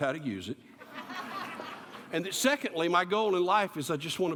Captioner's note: laughter